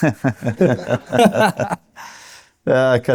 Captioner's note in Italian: risate